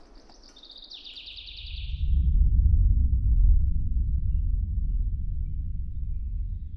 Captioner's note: birds twittering; soft ambient music